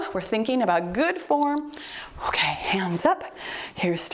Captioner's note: timer beeps